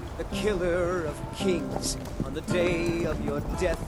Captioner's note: horses Galloping